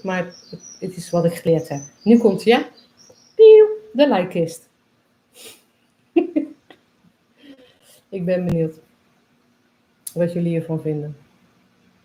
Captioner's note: laughs